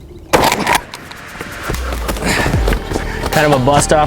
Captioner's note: gun roars